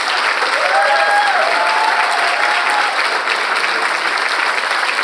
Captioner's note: audience cheering; audience continues applauding